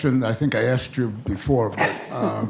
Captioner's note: laughs